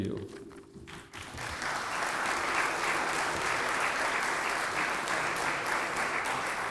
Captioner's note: applause